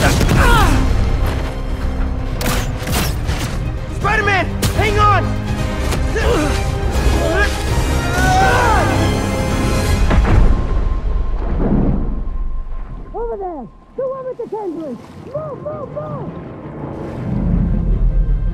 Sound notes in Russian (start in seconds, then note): 6.0 Кряхтит